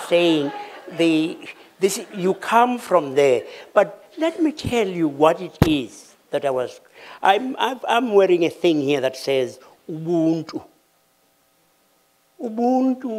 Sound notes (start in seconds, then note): 0.1 laughter